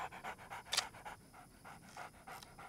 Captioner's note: camera shutter clicks